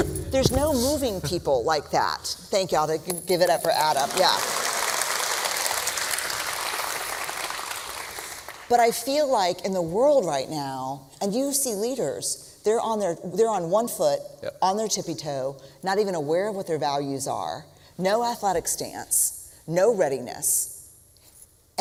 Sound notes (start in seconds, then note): 0.0 thumping; 3.9 applause